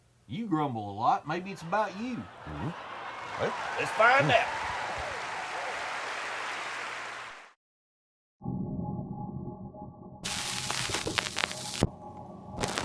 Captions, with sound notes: You grumble a lot, maybe it's about you. (audience cheers) Welp, let's find out. (slow, dramatic music)